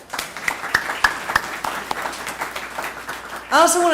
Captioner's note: applause